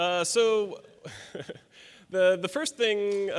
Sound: audience chuckles

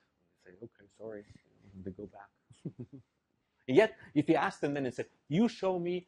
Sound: laugh

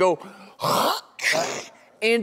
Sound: blows nose

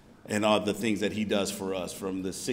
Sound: none

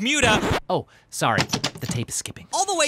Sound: record scratch; tape ejecting

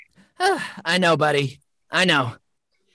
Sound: sighs

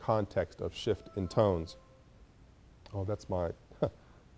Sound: computer beeps

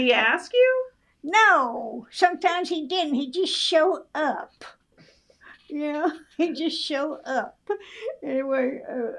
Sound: laughs

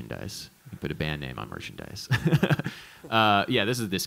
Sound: laughs

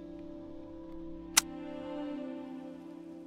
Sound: gun click

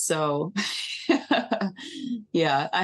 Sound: laughing

